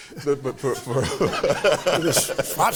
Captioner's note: laughs